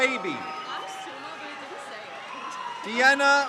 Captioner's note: crowd cheers